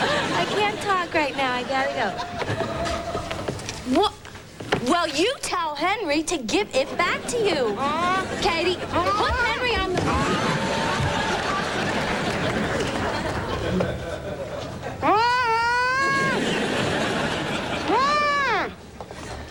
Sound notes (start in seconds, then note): 8.8 worried mumbling